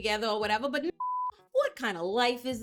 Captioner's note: beep